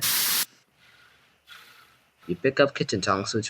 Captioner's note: television static; heavy breathing